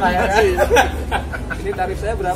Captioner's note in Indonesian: laugh